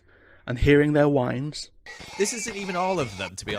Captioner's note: horse whines